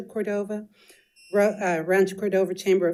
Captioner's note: timer beeps